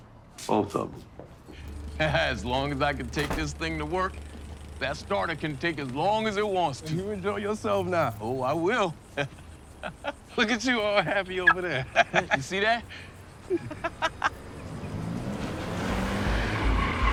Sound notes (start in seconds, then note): 8.6 laughs